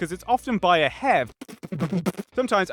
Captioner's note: fpbtbptbptbpt